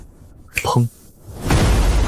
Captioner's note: boom